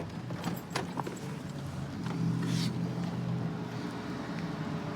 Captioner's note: distant traffic hum